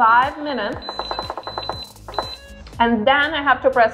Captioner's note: beeping